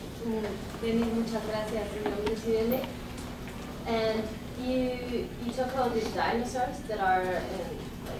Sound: spanish

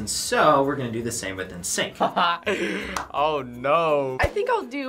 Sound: laughs

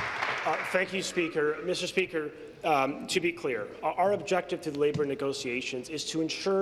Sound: applause

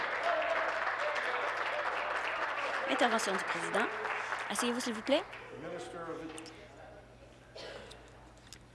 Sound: applause

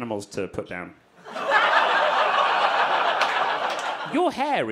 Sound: audience laughing

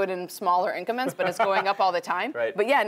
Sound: laugh

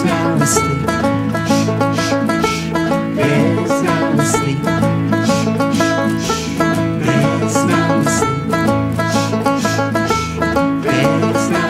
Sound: shh shh shh

